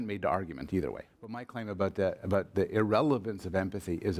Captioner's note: voiceover